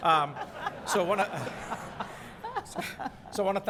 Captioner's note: laughing